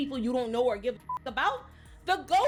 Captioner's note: beep